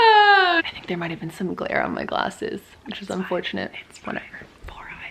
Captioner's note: whispers